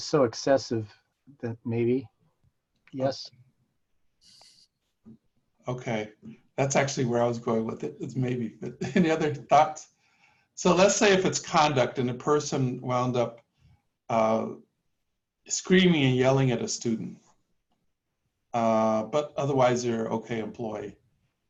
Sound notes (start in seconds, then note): 8.7 laughter